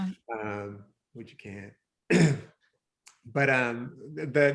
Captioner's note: clears throat